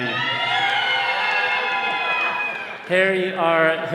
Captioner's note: all cheering